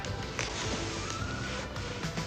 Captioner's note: rasping